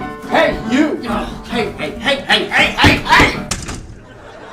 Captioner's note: knocking; slam!; canned studio audience laughter and applause